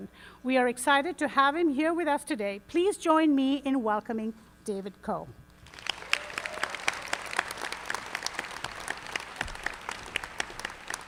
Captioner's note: applause